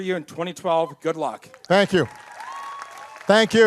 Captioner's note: applause